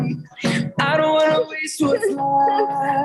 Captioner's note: whimpering